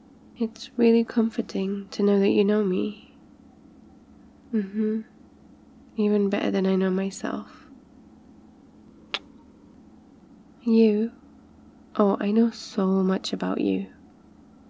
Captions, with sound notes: it's really comforting... to know that you know me mmhmm, even better than I know myself *kiss* you? oh, I know sooo much about you